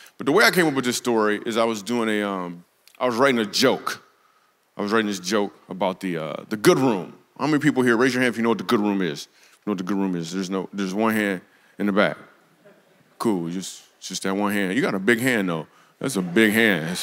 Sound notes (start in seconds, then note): 12.6 congregation snickers